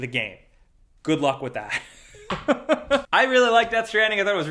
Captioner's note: laughs